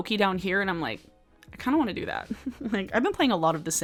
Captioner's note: laughs